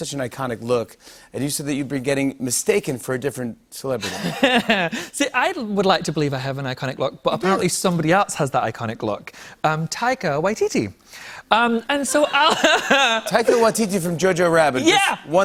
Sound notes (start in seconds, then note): 3.3 laughs; 12.1 laughter